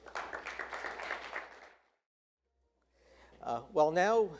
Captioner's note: attendees applauding